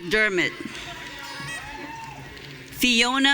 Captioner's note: audience cheering